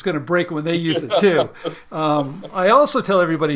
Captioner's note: laughing